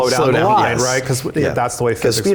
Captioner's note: laughs